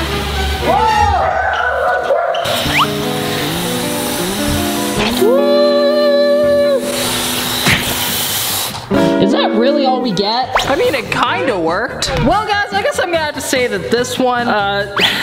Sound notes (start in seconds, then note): 0.7 screaming; 6.3 deflating sounds